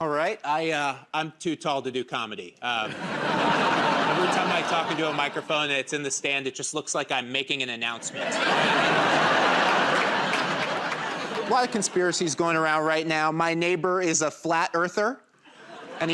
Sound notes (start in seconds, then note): 2.8 laughter; 8.0 laughter and applause